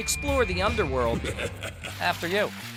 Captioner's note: evil laugh